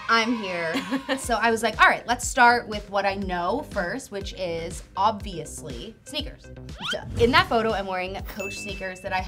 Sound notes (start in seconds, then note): 0.7 laughing